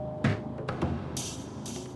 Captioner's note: doorbell rings